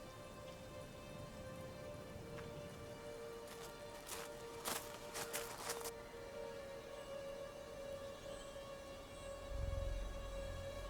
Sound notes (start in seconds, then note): 3.7 gravel crunching; 3.7 pensive music continues